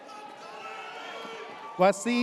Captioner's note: audience cheers